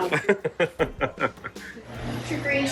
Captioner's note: chuckling